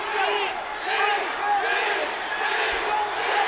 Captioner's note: crowd chants